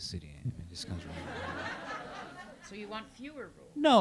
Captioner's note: audience laughs